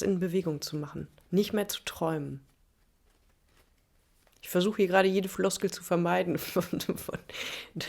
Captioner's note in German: gelächter